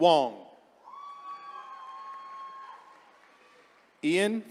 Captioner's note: attendees cheering